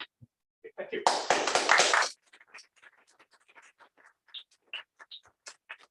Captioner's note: applause